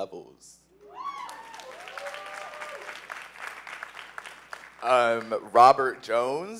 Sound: cheers; applause

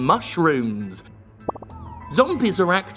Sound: pop

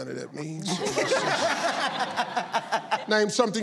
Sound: audience laughs

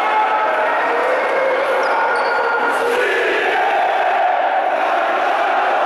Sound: fans chanting

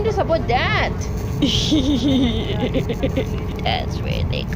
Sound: laughs

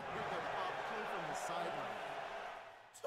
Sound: loud cheering

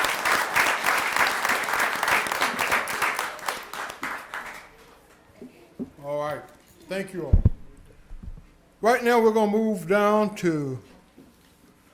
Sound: applause

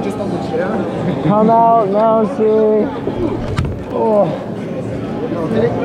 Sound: groans

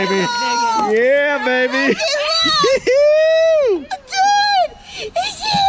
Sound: cheers

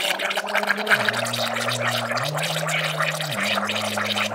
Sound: humming

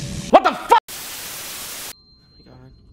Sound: static

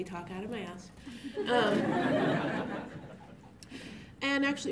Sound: laughter

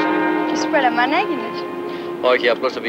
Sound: Greek spoken audio

